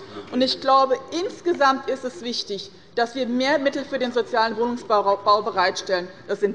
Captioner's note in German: none